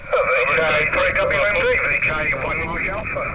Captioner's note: multiple stations calling